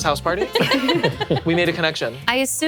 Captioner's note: laughing